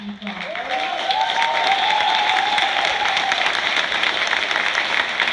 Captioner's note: applause, cheers